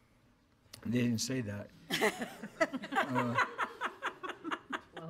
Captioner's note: board laughs